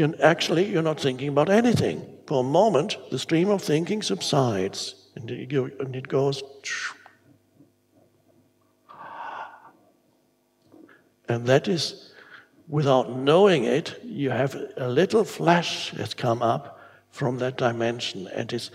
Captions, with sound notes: Actually, you're not thinking about anything. For a moment, the stream of thinking subsides, and it goes. (imitates whooshing) (gasping) And that is without knowing it, you have a little flash that's come up from that dimension,